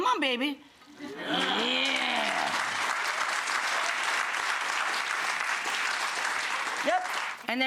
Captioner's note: audience applause